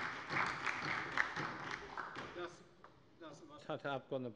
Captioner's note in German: Beifall bei der LINKEN und der SPD